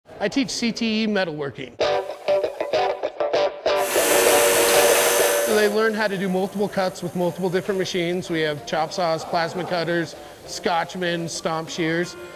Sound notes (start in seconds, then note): 1.8 upbeat music; 3.8 machine whirring